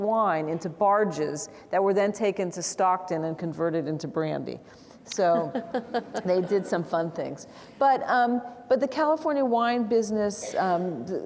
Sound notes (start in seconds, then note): 5.2 chuckles; 5.4 audience laughing